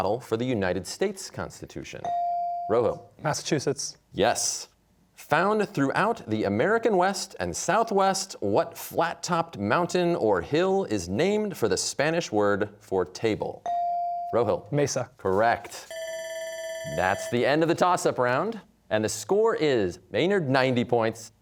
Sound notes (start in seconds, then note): 15.9 bell rings